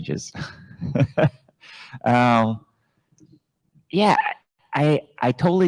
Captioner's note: chuckles